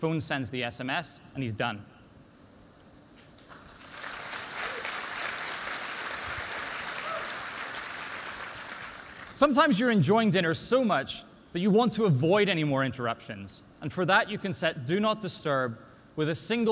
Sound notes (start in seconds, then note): 3.4 applause